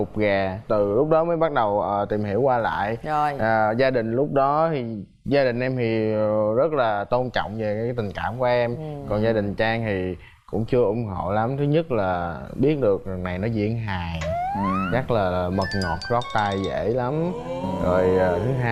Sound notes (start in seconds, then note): 8.7 agreeing sound